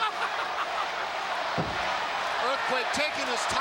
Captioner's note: Jimmy Hart laughs